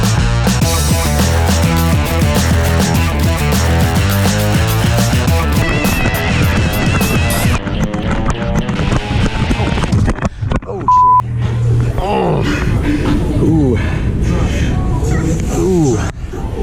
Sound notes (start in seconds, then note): 11.3 groans